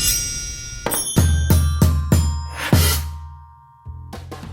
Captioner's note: board thumping